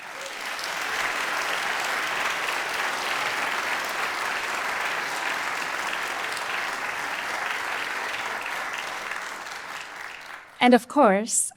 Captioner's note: applause